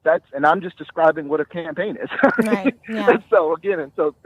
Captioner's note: chuckling